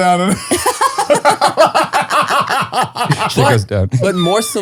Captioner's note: all laughing